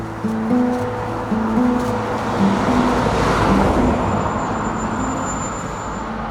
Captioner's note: sound of cars passing